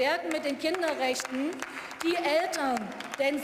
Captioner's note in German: Beifall